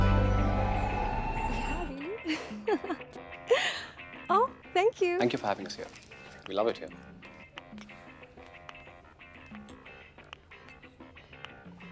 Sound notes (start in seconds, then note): 2.1 chuckles